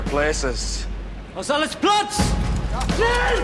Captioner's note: Говорейки на немски